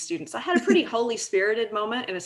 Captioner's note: laughing; laughs